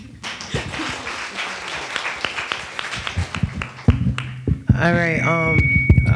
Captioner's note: attendees applauding